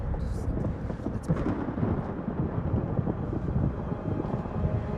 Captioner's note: thunder rumbles